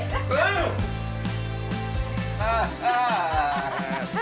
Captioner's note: laughs